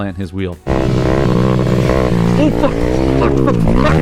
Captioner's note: motorcycle engine roaring